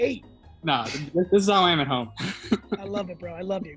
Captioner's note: laughs